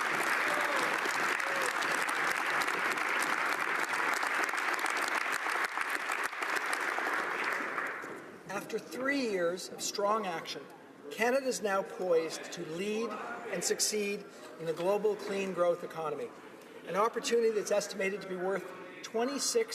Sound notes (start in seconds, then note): 2.1 applause